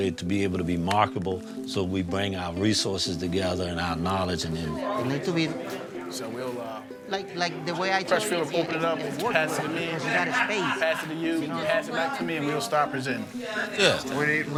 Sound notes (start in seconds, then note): 6.4 overlapping chatter; 10.2 participants laughing and chatting